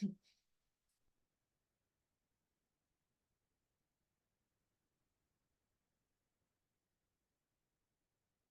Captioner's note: silence